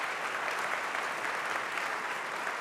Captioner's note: applause